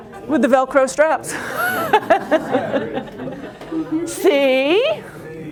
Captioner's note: laughter